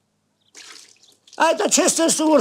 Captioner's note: slosh